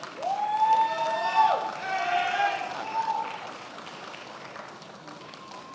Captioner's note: attendees applauding and cheering